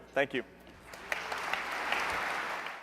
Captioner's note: applause